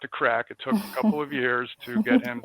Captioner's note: laughs